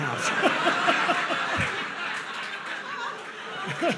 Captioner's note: audience laughs